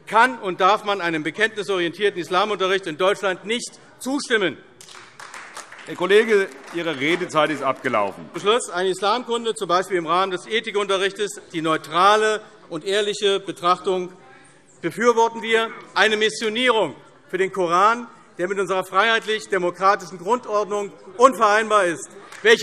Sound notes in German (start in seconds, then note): 4.8 Beifall AfD